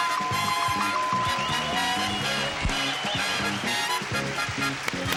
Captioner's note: audience cheering